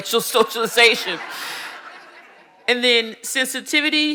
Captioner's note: audience laughing